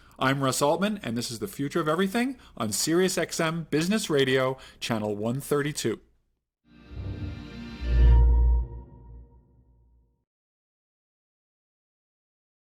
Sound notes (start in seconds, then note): 6.9 logo whooshing